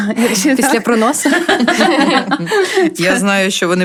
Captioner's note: laughter